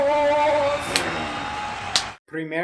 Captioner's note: wrestler slapping his arm and growling as the crowd applauds